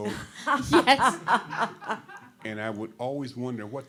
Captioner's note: all laughing